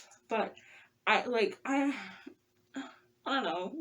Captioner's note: sigh